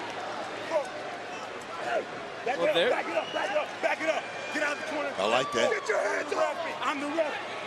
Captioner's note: yelling